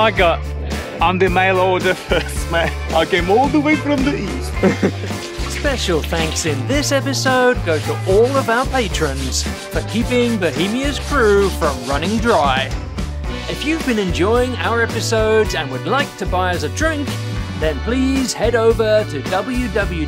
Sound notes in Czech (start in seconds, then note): 3.2 S ruským přízvukem